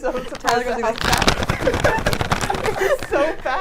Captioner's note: bag crinkling